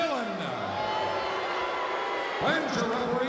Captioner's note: crowd cheering